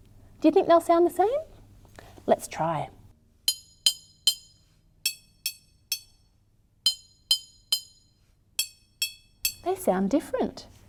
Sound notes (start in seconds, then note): 3.3 tapping sounds can be heard